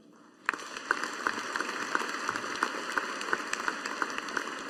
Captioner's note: audience applauding